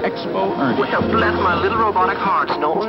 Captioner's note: robotic voice